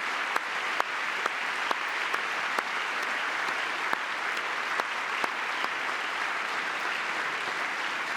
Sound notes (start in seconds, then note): 0.0 applause